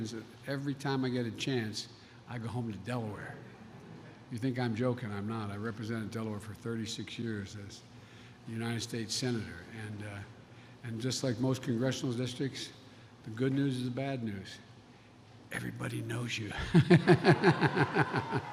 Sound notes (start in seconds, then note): 3.6 laughter; 16.6 laughs